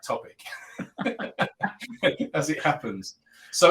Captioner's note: both laughing